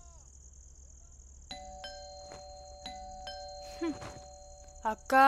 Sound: door bell rings

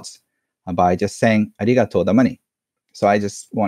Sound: speaks foreign language

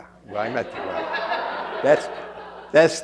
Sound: laughter

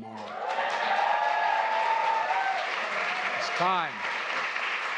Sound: applause

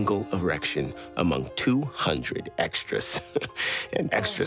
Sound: laughing

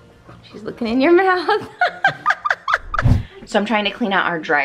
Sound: laughs

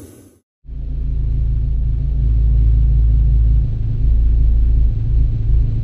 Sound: there is a quiet rumble of an engine

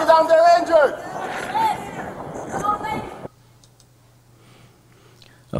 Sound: background talking

